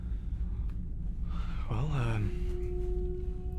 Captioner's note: sighs